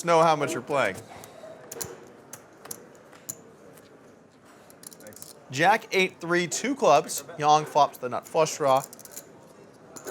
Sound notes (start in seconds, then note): 1.5 poker chips clicking